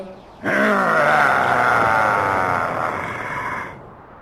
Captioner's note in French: Grognements du dragon